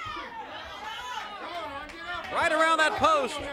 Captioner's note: crowd chatter